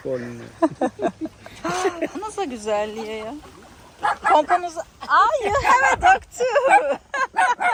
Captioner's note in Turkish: kahkaha